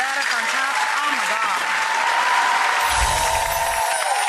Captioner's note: audience applause